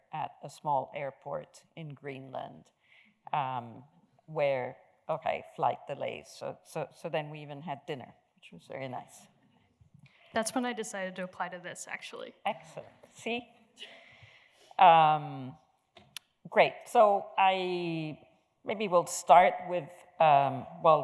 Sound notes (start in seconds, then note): 13.9 chuckles